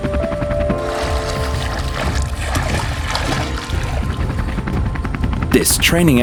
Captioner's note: gentle music; water splashes